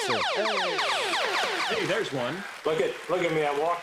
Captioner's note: cheers and applause